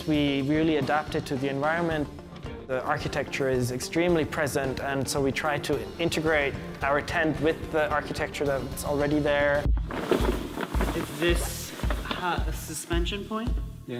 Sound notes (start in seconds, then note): 9.8 crumpling